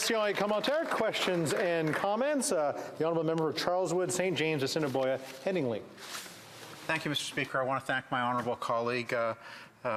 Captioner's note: applause